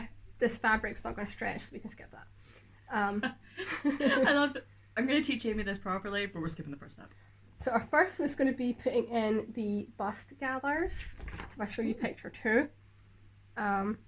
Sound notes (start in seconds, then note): 3.6 laughing